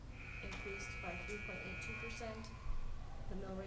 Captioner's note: sports buzzer buzzing